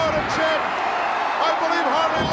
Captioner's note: crowd cheers